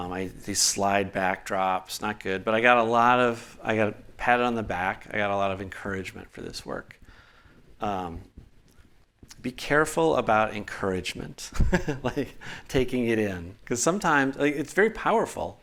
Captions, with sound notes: These slide backdrops. Not good, but I got a lot of. I got pat on the back. I got a lot of encouragement for this work. Be careful about encouragement. *laughs* Like taking it in, because sometimes it's very powerful.